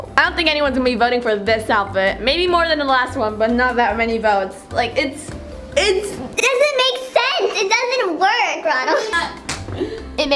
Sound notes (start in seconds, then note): 5.4 high pitch audio; 8.7 laughs